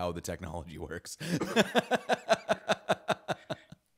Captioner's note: laughing